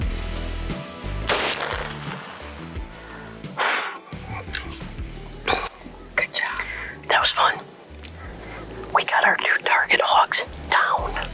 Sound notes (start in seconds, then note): 1.2 rifle bangs; 2.8 exhales